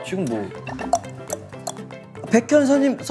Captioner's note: knock x3